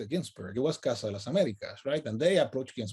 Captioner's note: speaks in native language